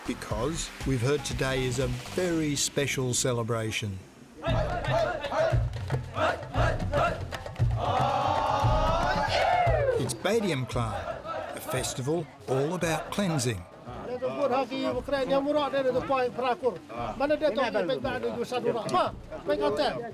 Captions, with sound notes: because we've heard today is a very special celebration. (people chanting in foreign language) It's Behdeinkhlam, a festival all about cleansing. (man speaking in foreign language)